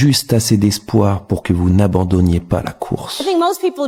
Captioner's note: french dialogue continues